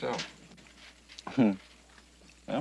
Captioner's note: chuckles